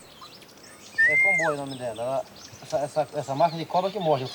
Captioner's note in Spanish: <i>habla en portugués</i>